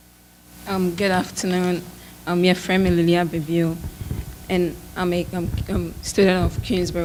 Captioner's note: speaks in foreign language